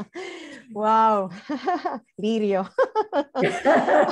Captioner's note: laughs; laughing